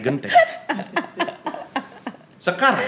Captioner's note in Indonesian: tertawa